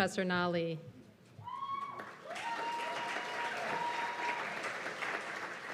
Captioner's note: cheers and applause